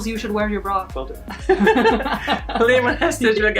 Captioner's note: laughing